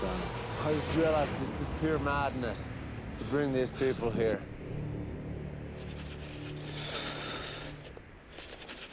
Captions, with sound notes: - I just realized this is pure madness to bring these people here. (chattering)